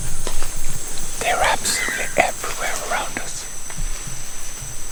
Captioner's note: whispering